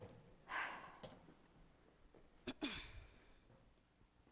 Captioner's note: exhales sharply